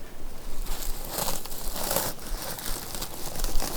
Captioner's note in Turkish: Poşet sesleri